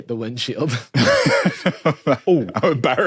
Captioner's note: giggles